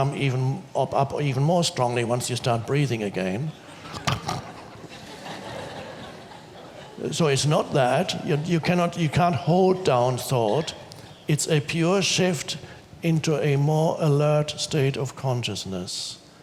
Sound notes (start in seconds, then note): 3.6 audience laughs; 4.1 snorts